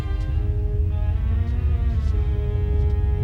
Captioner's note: rumbling